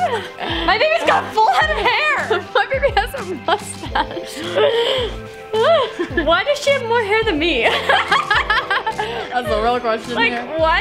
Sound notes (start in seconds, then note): 7.6 laughs